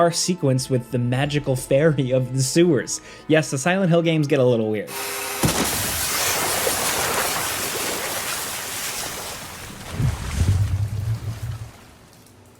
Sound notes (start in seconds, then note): 5.4 water splashes